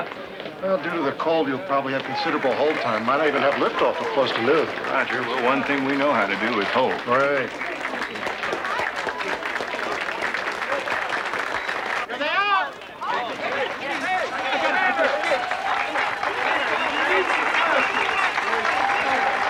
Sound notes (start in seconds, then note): 7.0 applauding; 12.8 chattering; 15.0 applauding